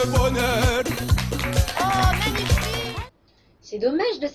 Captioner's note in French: aplaudisement public